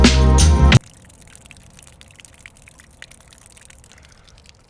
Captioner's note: water dripping